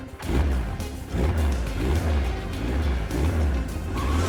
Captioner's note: engine starting